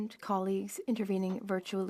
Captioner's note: speaking french